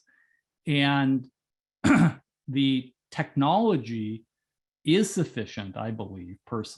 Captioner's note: cough